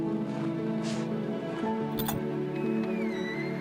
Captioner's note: clicking; gate creaking